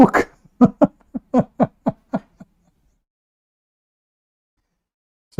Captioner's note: Ketawa